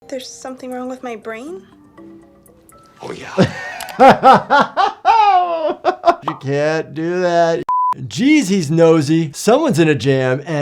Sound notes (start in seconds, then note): 3.2 laughing; 7.3 alarm beeping